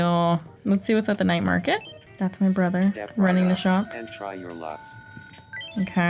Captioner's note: game audio